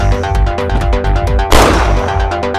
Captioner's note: gunshot